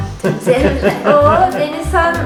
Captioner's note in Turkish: Kahkaha sesi